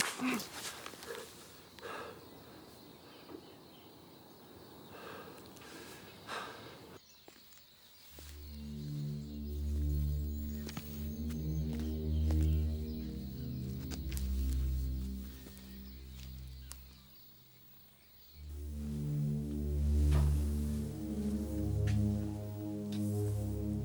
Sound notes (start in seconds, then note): 0.2 Andy grunts; 2.7 birds chirping; 4.8 Andy breathing heavily; 9.1 suspenseful music; 12.5 footsteps tapping; 21.7 footsteps tapping